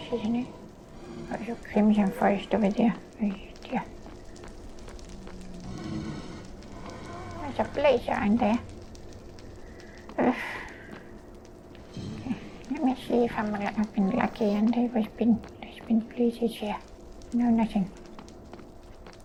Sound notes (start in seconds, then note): 9.9 sigh